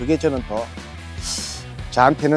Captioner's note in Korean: 스읍